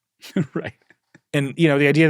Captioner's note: chuckles